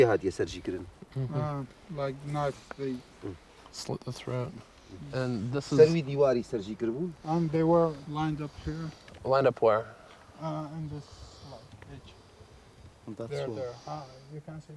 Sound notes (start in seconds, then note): 4.7 speaking foreign language